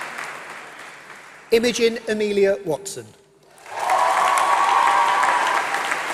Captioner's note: applause